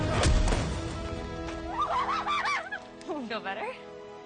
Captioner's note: laughs